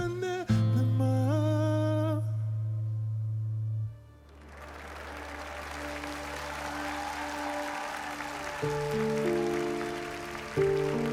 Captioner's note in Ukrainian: оплески